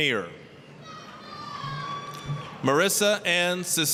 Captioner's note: applause, cheering